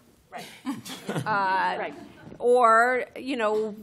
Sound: laughter

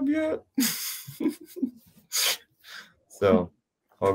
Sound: they laugh

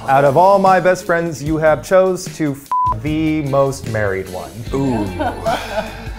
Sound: beep

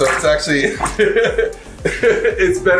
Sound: laughing

